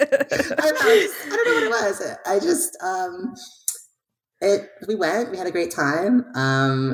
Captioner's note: laughing